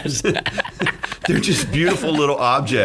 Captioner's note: laughing